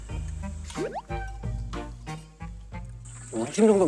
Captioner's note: nom nom